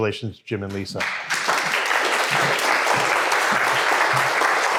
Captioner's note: audience applauds